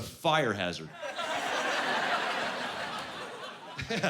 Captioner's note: laughing